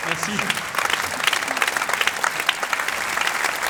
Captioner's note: applause